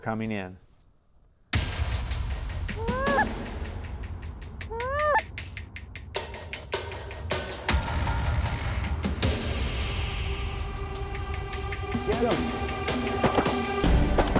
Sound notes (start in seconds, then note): 2.7 geese calls